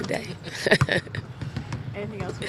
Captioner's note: laughter